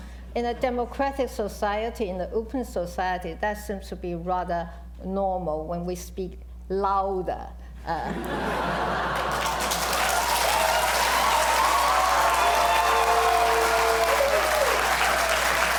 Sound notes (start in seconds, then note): 8.0 laughter; 8.9 cheers, applause